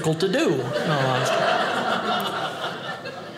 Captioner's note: audience laughing